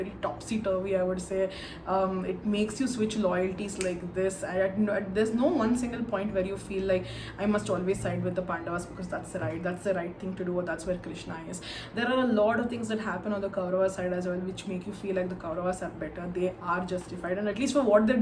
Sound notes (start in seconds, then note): 3.8 snaps finger